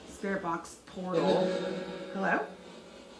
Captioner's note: ghostly Voice